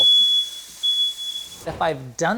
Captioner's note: smoke detector beeping